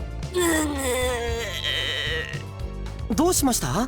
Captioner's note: frustrated groan